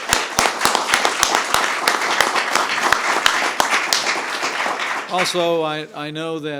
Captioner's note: applause